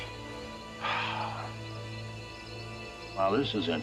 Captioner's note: sighs